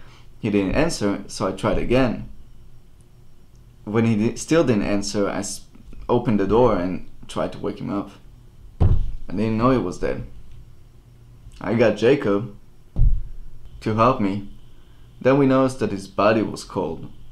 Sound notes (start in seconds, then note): 8.8 slams fist softly on table; 13.0 another soft slam on table